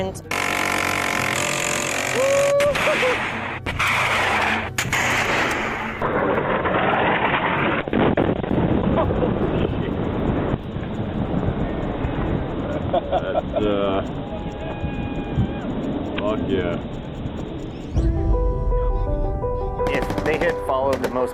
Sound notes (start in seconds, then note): 0.3 machine gun rattles; 3.0 air whooshes, backblast roars; 6.0 machine whirs; 8.0 explosion rumbles; 12.6 soldier laughs; 14.2 troops cheer; 17.9 melancholic music; 17.9 troops chatter